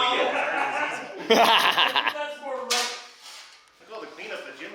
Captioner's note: laughing